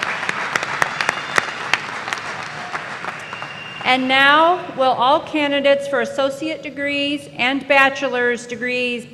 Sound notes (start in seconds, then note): 0.0 initiate applause